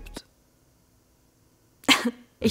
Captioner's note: cough